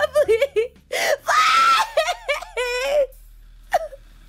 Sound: Mary screams

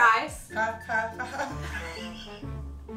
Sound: humming; laughing

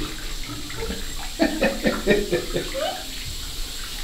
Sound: laughing

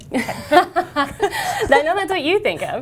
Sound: laughing

